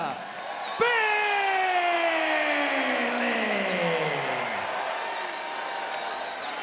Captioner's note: crowd cheers